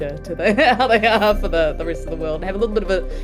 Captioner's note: laughs